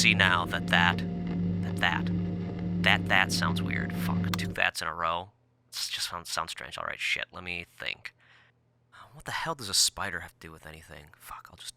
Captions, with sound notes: but I see now that that, that that, that that, sounds weird. Fuck, two that's in a row. (static clicks off) Just sounds strange, all right, shit, let me think. What the hell does a spider have to do with anything?